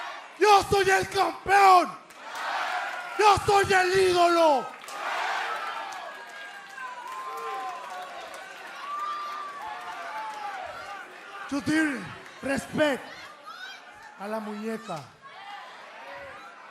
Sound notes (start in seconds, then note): 0.0 speaking spanish; 4.9 speaking spanish